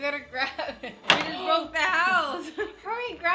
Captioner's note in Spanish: risas